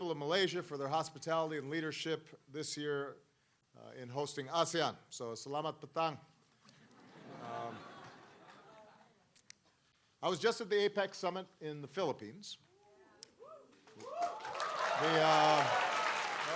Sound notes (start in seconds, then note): 5.4 non-english